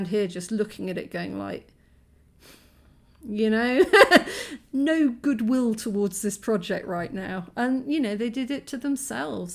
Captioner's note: laughing